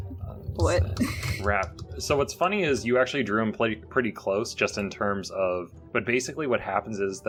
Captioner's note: typing